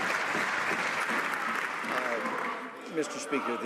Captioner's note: some Applause